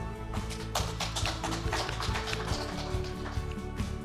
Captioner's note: crowd claps